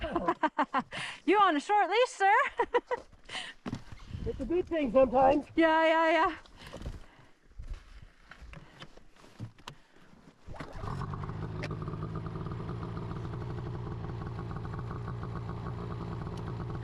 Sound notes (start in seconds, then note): 0.0 laughs; 10.7 engine starts idling